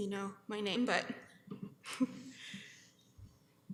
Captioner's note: chuckles